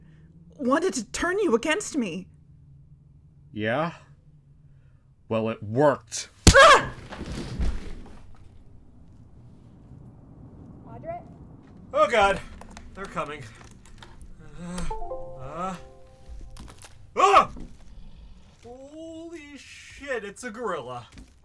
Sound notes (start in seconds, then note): 16.4 crunch